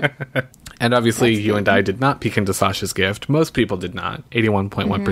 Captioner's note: laughs